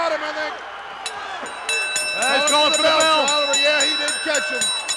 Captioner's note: bell ringing